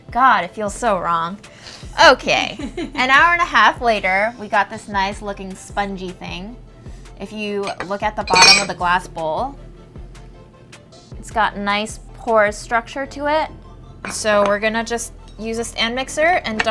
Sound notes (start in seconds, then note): 2.4 laughing